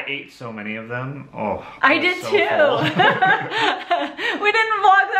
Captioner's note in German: lacht